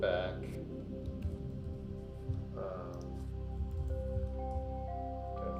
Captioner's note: keyboard clicking